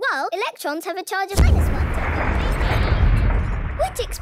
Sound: distant explosion

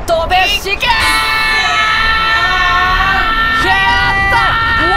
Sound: yelling

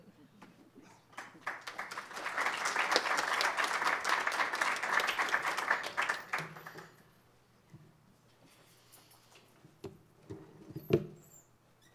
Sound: applause

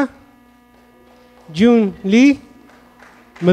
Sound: audience clapping

